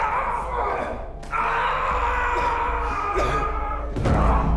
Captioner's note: yelling